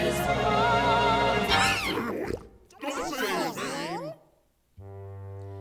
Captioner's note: sqawk!